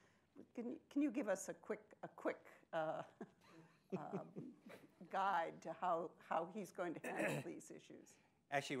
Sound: chuckles

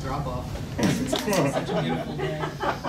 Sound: laughing

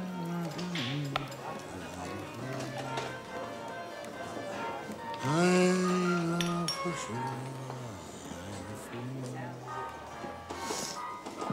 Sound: drunkenly humming

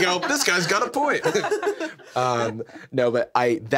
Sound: everyone laughs

